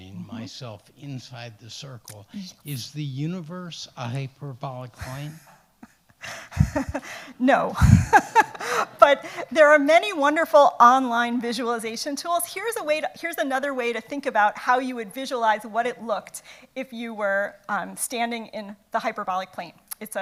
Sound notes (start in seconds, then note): 6.2 laughs